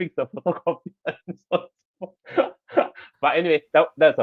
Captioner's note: laughs